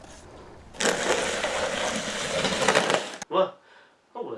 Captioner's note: sounds of the box being pushed across the floor